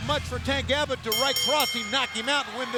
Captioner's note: bell ringing